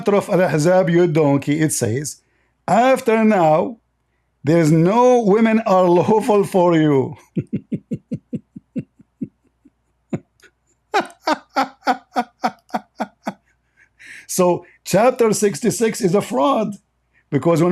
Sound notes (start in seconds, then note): 7.2 Ketawa